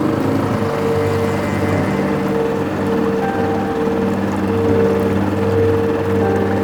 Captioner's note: mournful music; outboard motor puttering